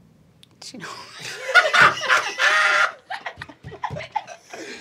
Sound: laughing

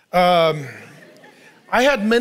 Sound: congregation laughing

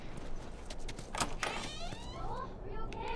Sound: door creaks

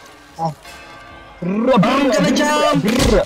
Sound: imitates firing noises

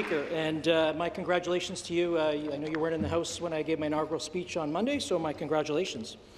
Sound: applause

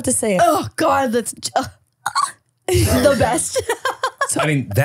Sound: squeals

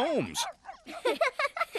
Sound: laughing

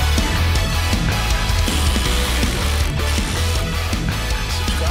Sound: wet fart noises

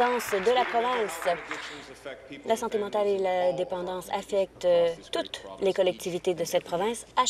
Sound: applause

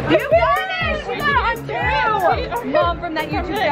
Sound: spectators cheering

